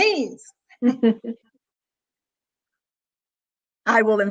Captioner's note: chuckles